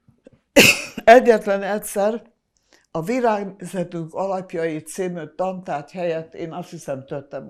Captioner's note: coughing